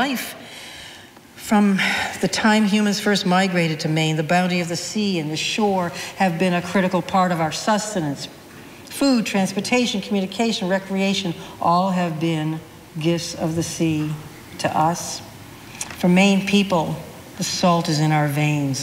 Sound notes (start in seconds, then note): none